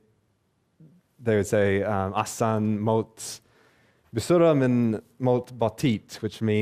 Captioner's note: speaking Arabic